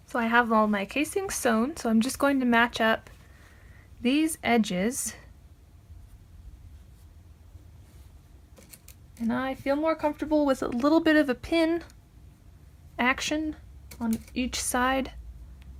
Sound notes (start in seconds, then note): none